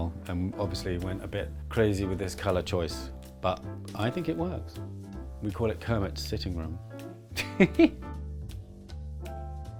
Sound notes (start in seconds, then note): 7.4 laughs